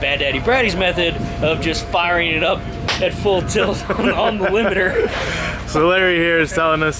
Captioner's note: laughing